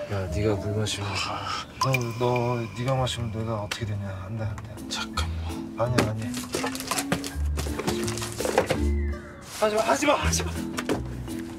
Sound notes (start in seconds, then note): none